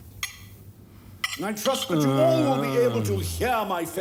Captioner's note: groaning stops